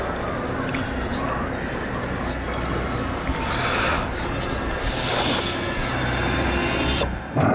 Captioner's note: whispers